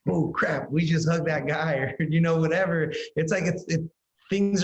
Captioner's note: laughs